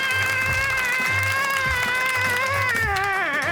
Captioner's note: cheers and applause